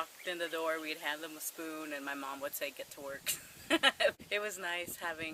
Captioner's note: laughs